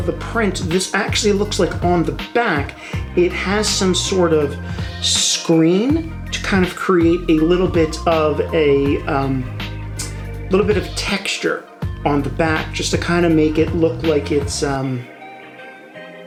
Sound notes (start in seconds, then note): none